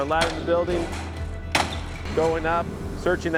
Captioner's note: sound of window obsticles being smashed